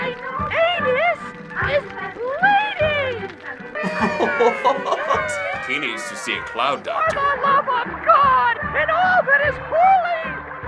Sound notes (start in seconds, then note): 3.8 creatures cheering; 3.8 chuckling